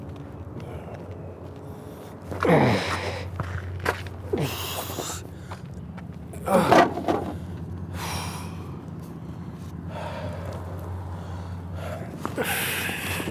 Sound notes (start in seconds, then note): 1.6 heavy breathing